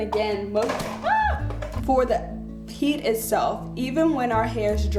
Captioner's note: screams